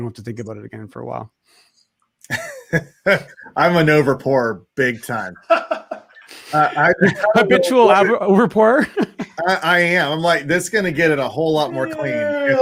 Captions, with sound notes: you don't have to think about it again for awhile. - (laughs) I'm an overpour big time. (all laughing) - Habitual overpour. - I am like, this is gonna get it a whole lot more clean.